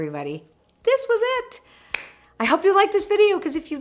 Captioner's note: claps hands